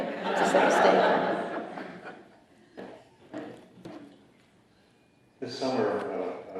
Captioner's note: laughter